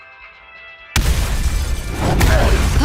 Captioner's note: crashes and glass breaking